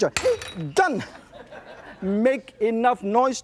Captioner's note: laughter